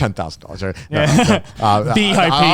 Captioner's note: all laughing